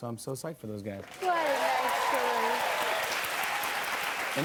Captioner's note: cheers and applause